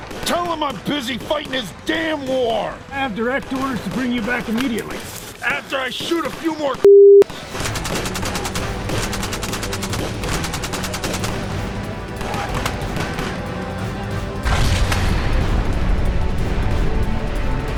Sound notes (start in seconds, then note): 7.4 gunfire rattling; 14.4 explosion bangs